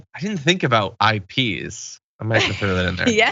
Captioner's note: laugh